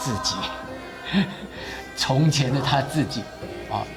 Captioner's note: chuckling